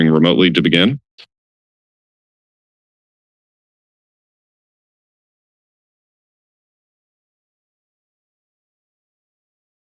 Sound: silence

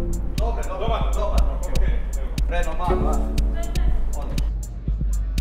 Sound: background chattering

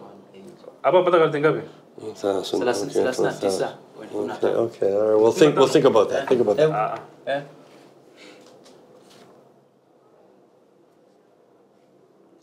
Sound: speaks Swahili

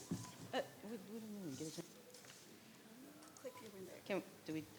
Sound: board members chattering

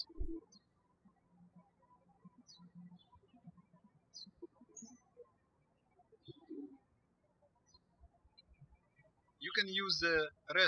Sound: birds chirping

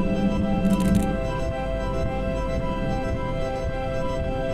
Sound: rapid clicking

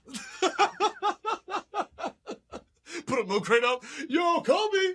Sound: laughing

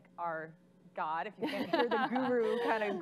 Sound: audience laughing

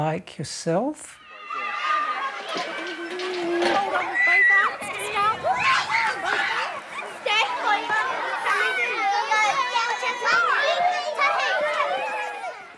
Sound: children shouting

